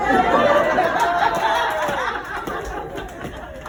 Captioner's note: laughter